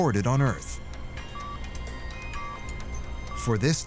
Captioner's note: machine continues beeping